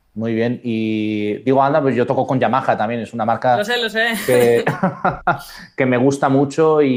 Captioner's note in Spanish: risas